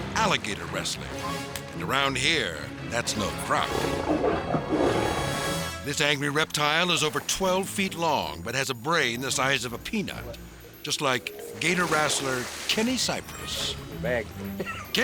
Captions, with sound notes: alligator wrestling, and around here, that's no crop. (alligator growling) This angry reptile is over 12 feet long, but has a brain the size of a peanut, just like gator wrestler Kenny Cypress. - Thank you.